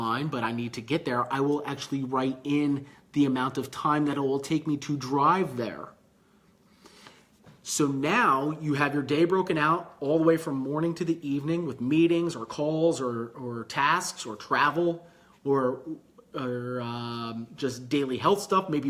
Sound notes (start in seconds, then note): none